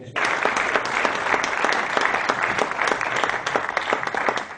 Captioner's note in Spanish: aplausos